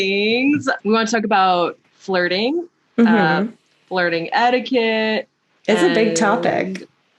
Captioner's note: mhmm